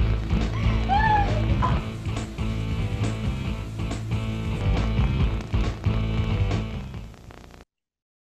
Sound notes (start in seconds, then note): 0.5 cries